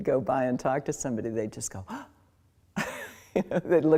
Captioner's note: gasps